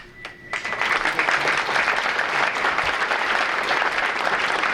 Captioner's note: audience applauding